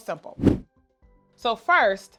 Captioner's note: air whooshes